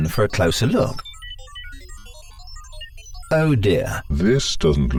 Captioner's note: device beeping